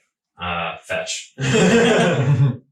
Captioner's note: laughing